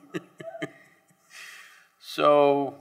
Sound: laughs

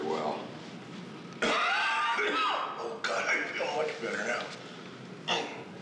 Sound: coughing

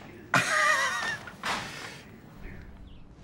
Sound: laughs

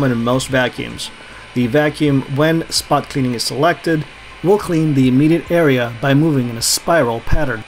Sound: the vacuum

